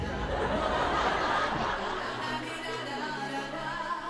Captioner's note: audience laughs; upbeat music